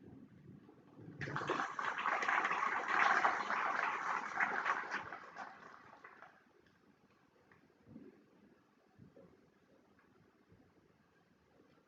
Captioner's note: applause